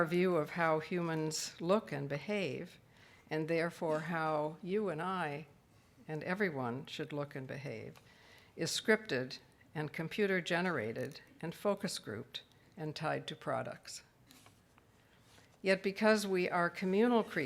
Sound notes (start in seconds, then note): none